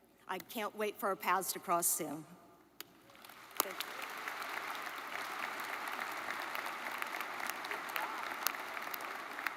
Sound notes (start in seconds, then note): 3.1 audience applauds